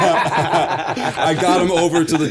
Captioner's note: laughter